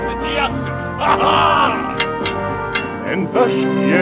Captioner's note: sounds of fencing